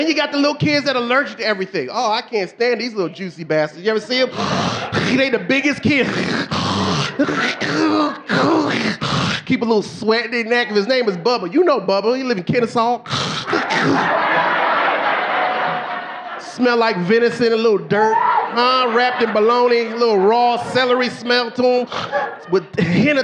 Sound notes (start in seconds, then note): 5.9 snorts; 7.6 snorting; 14.3 audience laughing